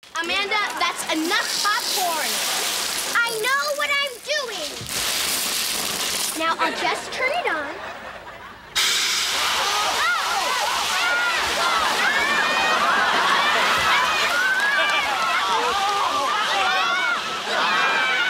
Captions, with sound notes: Amanda, that's enough popcorn! I know what I'm doing! Now I'll just turn it on... [screaming]